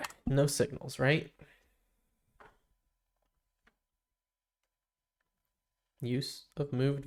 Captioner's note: silence